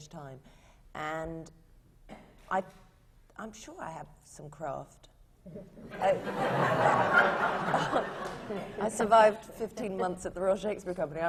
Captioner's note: laughter